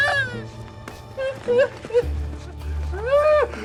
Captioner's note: crying